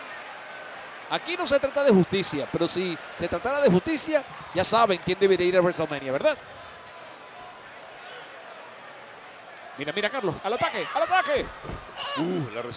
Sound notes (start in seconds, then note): 6.9 applause